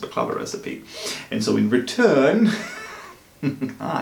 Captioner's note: laughs